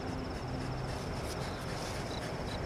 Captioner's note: dog panting